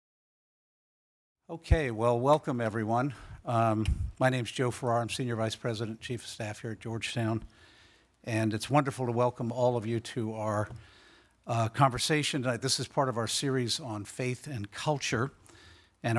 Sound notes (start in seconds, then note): none